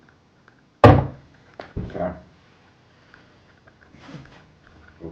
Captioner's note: hand tapping